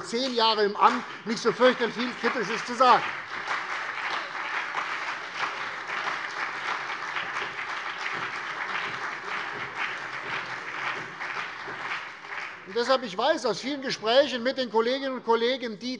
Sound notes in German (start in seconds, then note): 4.2 Beifall CDU und BÜNDNIS 90/DIE GRÜNEN